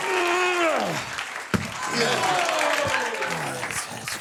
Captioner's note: Conan grunts